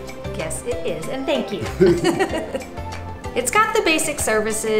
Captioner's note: laughs